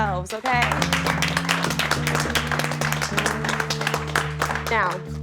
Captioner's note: contestants applaud